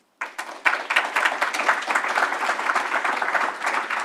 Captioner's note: audience applauds